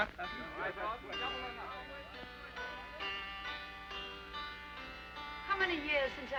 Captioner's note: men chattering; soft harpsichord music